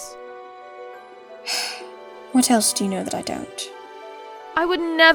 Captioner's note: sighs